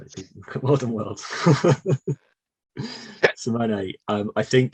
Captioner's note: chuckles